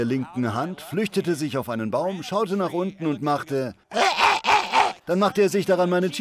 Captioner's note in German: kreischt